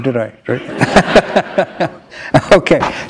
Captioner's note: laughter